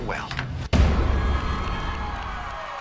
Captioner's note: audience cheering